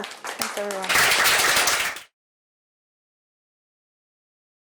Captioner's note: applause